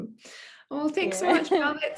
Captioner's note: laughing